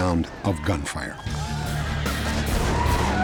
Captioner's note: horses neighing, gunshots